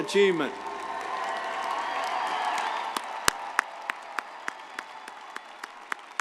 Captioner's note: audience applauding; audience cheering